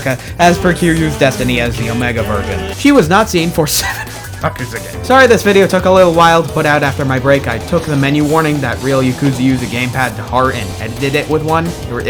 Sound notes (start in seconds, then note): 4.2 wheeze